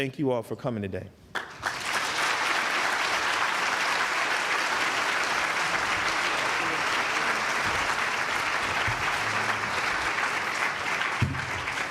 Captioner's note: applause